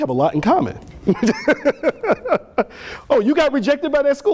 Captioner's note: laughter